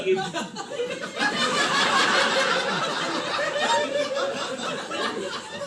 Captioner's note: laughter